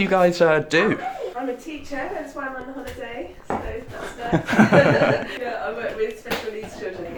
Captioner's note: laughing